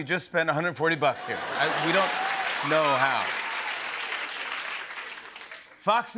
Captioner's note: laughter and applause